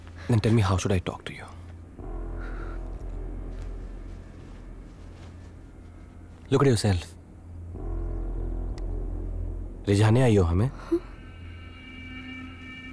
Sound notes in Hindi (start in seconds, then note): none